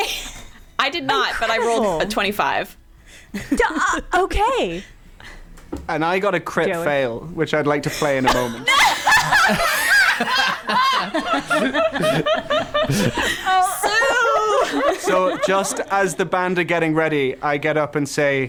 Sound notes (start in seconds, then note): 7.9 laughing